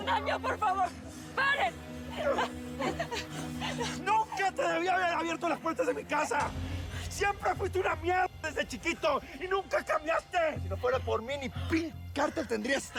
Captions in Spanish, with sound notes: ¡POR FAVOR, PAREN! [SOLLOZOS] >> ¡NUNCA TE DEBÍ HABER ABIERTO LAS PUERTAS DE MI CASA! ¡SIEMPRE FUISTE UNA M--- DESDE CHIQUITO Y NUNCA CAMBIASTE! >> ¡SI NO FUERA POR MÍ, NI P--- CÁRTEL TENDRÍAS!